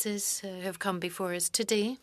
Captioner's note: speaking French